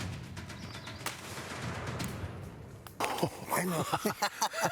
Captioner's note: faint shot; group laughs